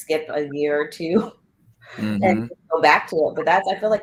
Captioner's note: laughter